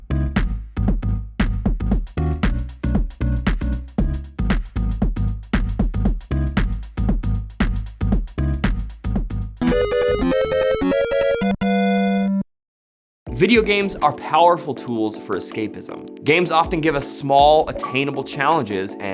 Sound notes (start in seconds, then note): 9.6 time's up alarm